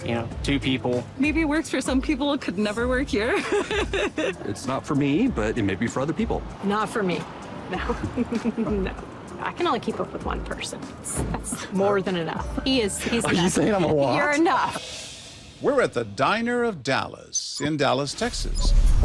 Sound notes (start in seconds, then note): 3.3 laughs; 7.8 laughs